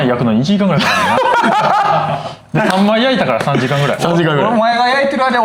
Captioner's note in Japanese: 笑い